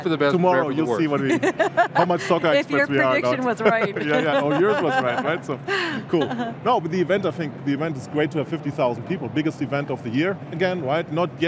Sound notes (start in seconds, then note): 3.2 laughs